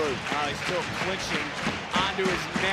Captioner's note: audience cheering